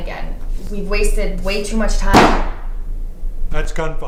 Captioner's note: gunshot